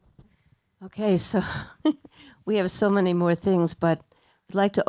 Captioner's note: laughs